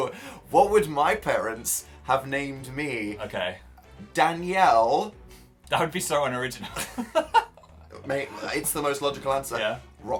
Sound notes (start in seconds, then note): 4.8 scoffs; 6.7 giggles